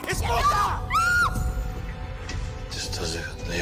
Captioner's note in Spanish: Grito